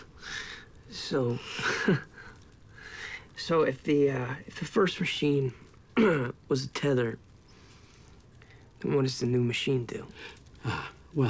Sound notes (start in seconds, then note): 1.6 both chuckle; 6.0 clears throat